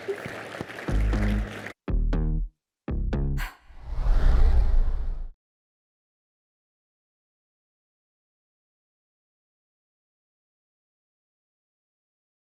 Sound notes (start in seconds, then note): 0.0 applause